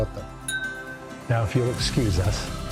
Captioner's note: glasses clinking